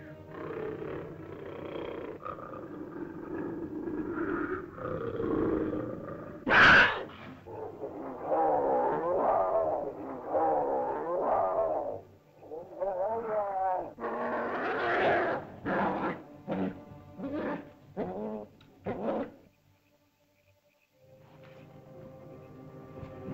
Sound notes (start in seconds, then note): 0.0 animal squawks; 0.0 ominous music; 0.2 large animal growls; 0.3 ominous music; 6.4 animal screeches; 8.2 growling sounds; 20.9 ominous music